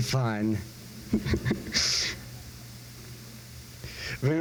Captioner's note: laughs